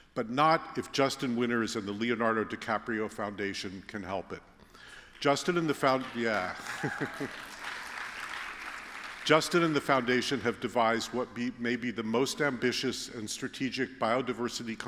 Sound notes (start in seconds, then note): 4.9 applause